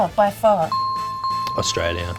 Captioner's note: bing